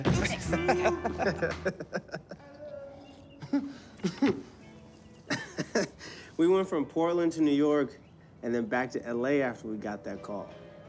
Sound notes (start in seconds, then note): 0.1 laughing